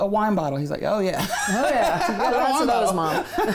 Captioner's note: laughs